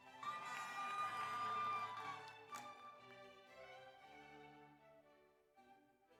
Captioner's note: audience cheers; audience applauds